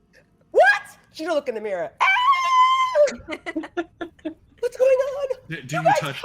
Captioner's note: screams